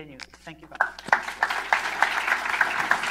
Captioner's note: applause